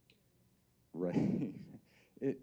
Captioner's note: chuckling